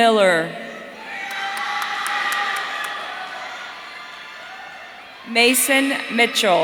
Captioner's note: audience cheering